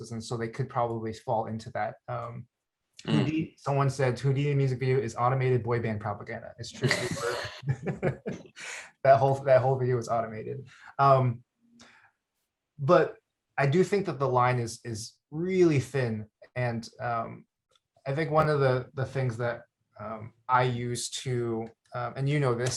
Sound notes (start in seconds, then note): 6.7 laughs